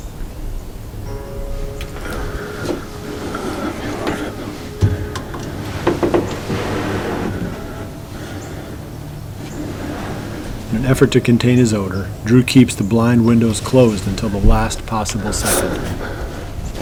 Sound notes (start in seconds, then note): 1.7 excited breathing, sound of movement in blind; 16.6 sound of opening window